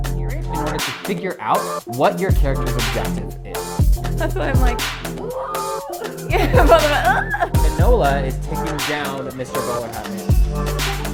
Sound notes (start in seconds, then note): 5.1 laughing